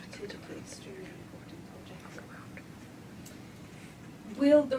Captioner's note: background chatter